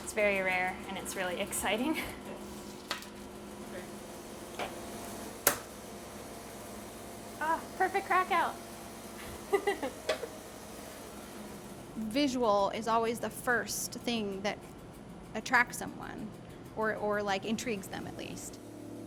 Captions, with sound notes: It's very rare, and it's really exciting. (tray tapping) Ah, perfect crack out! (laughing) - Visual is always the first thing that attracts someone, or intrigues them at least.